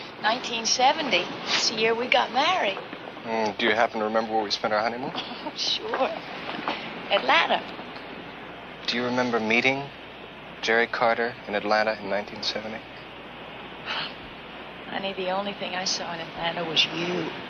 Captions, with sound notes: - 1970, it's the year we got married. - Do you happen to remember where we spent our honeymoon? (Frances laughs) - Sure, Atlanta. - Do you remember meeting Jerry Carter in Atlanta in 1970? (Frances sighs) - Honey, the only thing I saw in Atlanta was you.